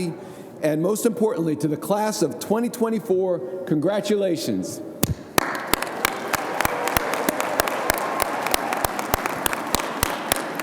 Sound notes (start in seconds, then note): 5.3 audience applauding